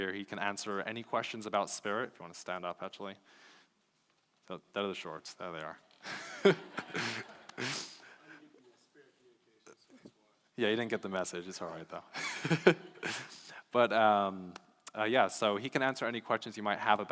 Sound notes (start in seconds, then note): 6.0 laughing; 12.2 laughs